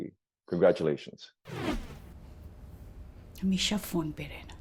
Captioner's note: transition sound